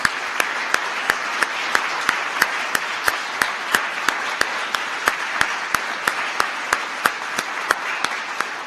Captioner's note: applause